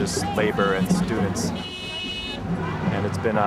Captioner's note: car horn honks